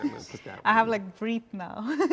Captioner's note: laughs